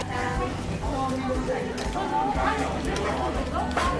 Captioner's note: laughs